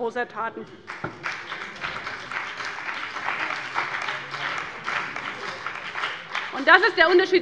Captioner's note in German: Beifall bei dem BÜNDNIS 90/DIE GRÜNEN und der CDU